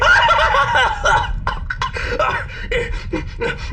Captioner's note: hacking and spluttering coughs